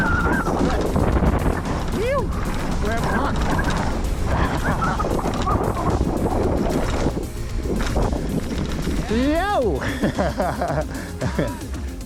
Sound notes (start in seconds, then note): 1.6 wind blowing; 5.1 laughing